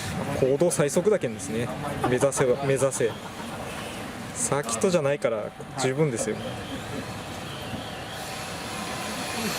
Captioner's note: laughs